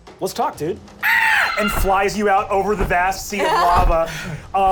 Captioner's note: screeches